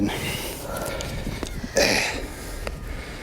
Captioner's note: sniffle